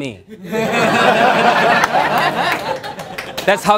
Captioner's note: laughter